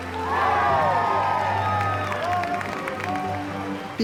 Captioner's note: cheering and clapping; dramatic uplifting music continues